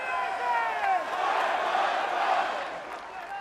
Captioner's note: fans chanting